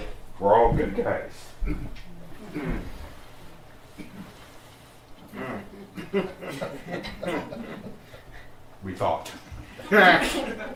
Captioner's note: slight laughter